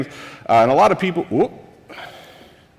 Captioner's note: sighs